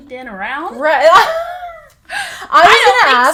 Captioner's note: laughs